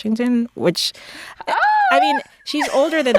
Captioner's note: laughter